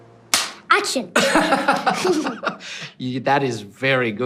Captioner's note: laughing